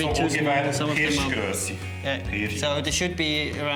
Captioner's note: speaks german